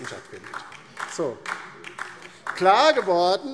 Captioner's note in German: Beifall DIE LINKE